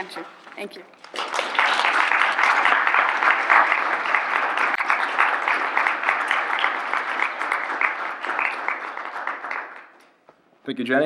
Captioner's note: applause